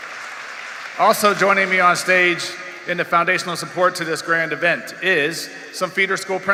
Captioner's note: applause